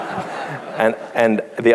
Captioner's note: laughs; laughter